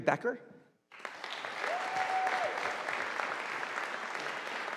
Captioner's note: audience applauding